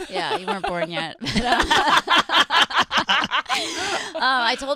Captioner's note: laughing